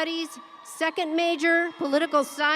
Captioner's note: audience cheering